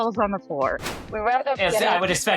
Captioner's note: graphic thudding